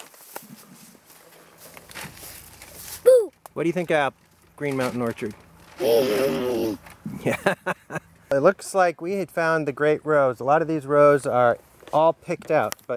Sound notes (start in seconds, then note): 5.8 grunting